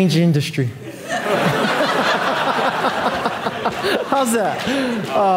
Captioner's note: audience laughing